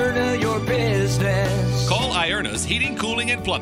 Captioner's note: voiceover